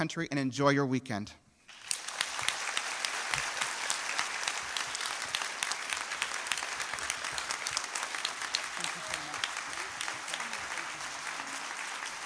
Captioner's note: applause